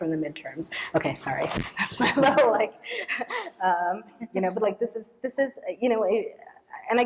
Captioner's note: laughs